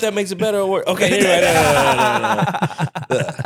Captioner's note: laughing